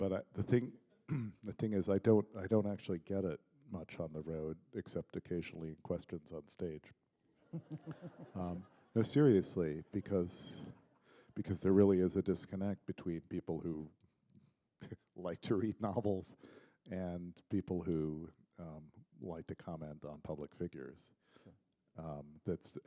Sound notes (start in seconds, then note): 7.4 laughter